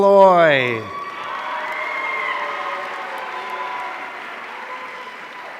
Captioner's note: audience cheering